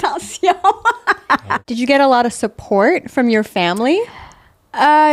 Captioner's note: in french; laughing